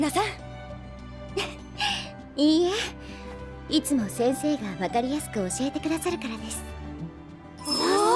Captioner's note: laughs